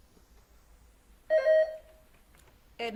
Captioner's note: buzzer beeps